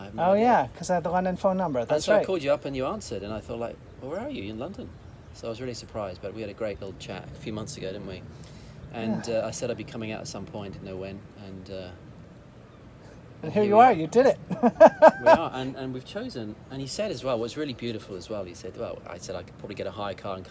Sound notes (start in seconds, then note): 13.4 laughs